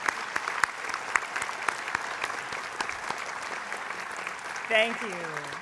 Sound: applause

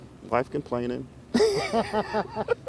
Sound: laughter

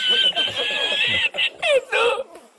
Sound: dramatic Laugh...LMAO

